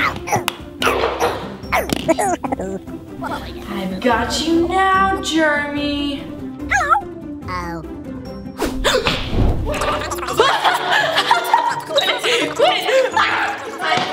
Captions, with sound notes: - Ah ooh, ooh. (chuckles) - I got you now, Germy! (gasps) (gasps) (laughs)